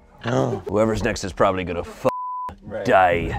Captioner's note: beep